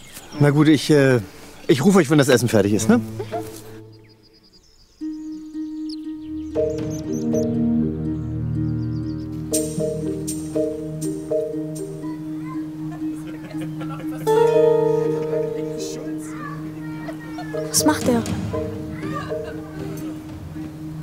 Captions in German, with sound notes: Na gut, ich ... ich ruf euch, wenn das Essen fertig ist, ne? (Gespannte Musik) (Heiteres Stimmengewirr) (Geheimnisvolle Musik) Was macht der?